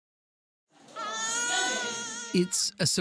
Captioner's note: baby crying